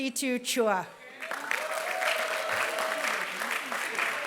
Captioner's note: applause